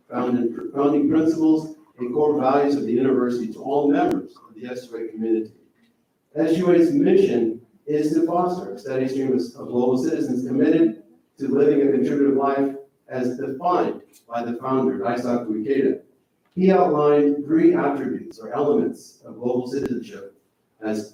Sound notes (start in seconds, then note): none